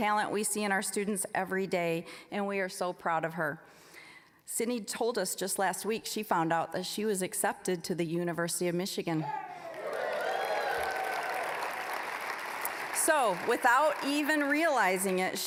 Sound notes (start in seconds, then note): 9.6 applause, cheering